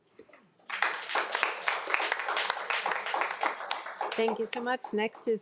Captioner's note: crowd applauding